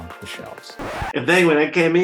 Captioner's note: record scratches